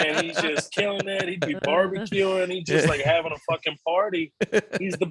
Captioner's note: beep